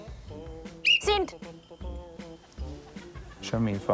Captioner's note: whistle trills